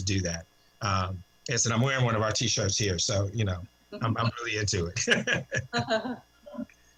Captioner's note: laughter